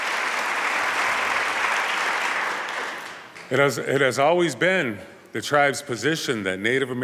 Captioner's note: applause